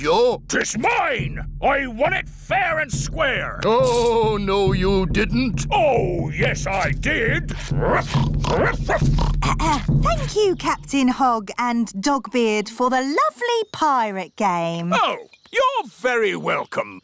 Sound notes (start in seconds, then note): 7.4 oinks; 7.9 clears throat; 8.4 barks